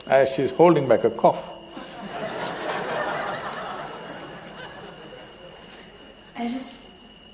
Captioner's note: laughter